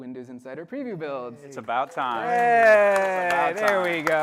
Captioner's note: applause